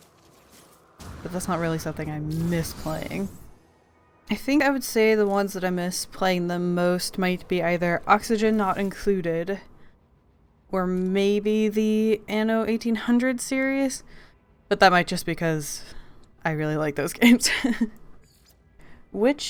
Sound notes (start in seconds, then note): 18.3 laughs